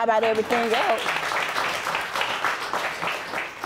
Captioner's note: audience applauding